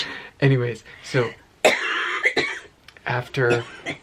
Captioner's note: coughing